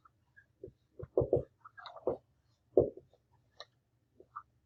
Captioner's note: marker tapping